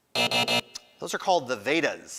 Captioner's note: alarm buzzes